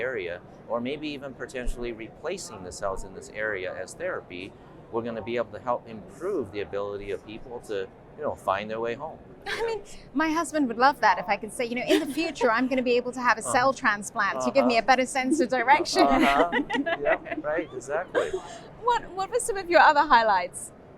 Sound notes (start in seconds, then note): 14.3 laughs